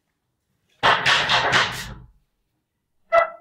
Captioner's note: Door knocking